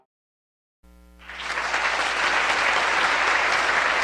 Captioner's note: applause